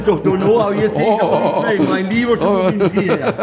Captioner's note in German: Lachen